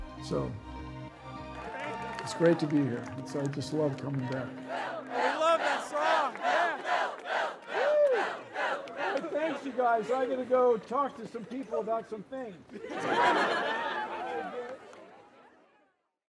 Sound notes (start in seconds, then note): 4.1 crowd chanting; 12.6 crowd laughter